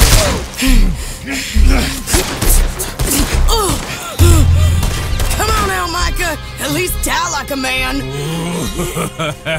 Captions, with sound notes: (gunshot) (gunshots) - Come on, Elmika! At least tell like a man! (laughs)